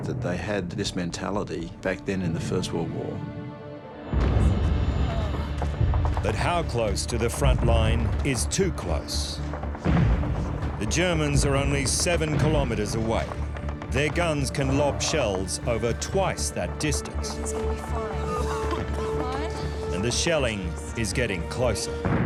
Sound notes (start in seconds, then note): 4.1 indistinct chatter; 4.1 tense music; 9.8 explosions; 18.9 patient coughing